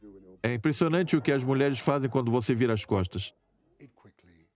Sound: audience laughs

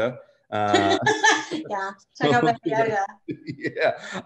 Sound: laughs

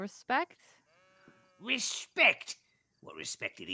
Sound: sheep bleats

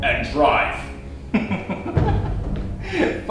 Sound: laughs

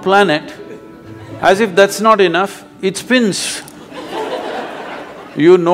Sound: laughter

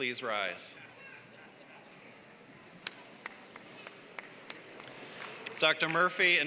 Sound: applause

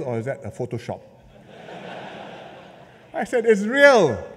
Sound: laughter

